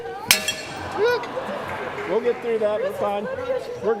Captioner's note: glass breaking?